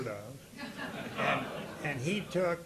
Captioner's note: audience laughing